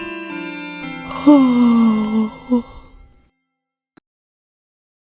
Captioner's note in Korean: 하품